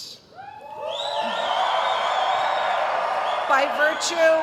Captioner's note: cheering